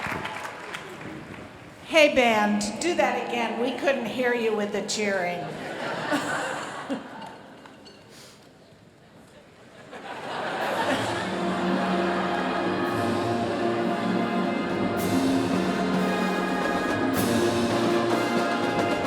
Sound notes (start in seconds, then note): 5.5 laughter